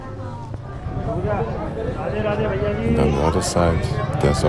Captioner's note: non-english speech